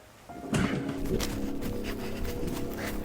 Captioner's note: tense music; breathing heavily